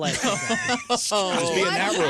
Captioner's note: laughing